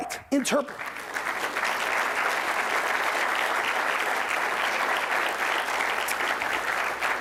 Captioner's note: applause